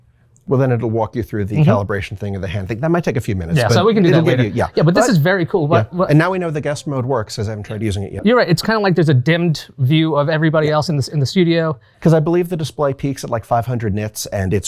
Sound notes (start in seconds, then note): 4.1 both chattering